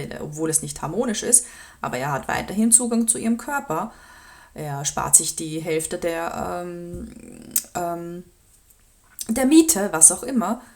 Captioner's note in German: seufzt